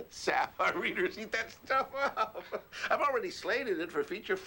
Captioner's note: laughing